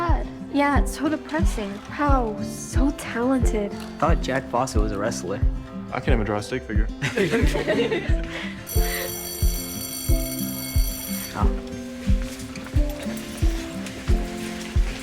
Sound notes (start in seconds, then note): 7.0 students laughing; 8.6 bell ringing; 11.3 gentle music continues